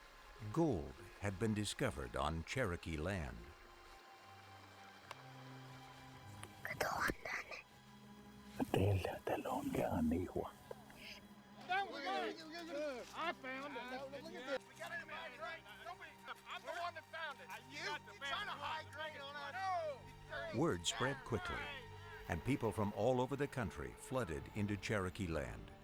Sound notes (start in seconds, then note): 5.9 Spoken Cherokee